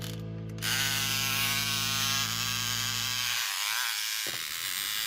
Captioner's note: engine whirs